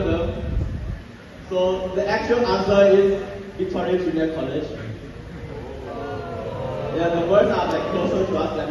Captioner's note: excited Crowd Noises